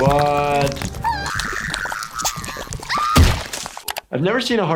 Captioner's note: heart pulsing; sniffles groaning